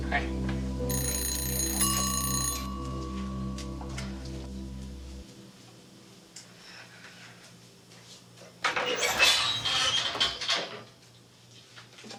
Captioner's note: timer dings